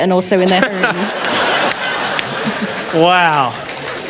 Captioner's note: laughter